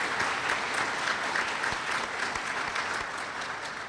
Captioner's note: applause